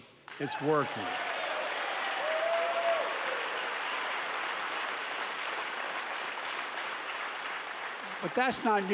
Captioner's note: applause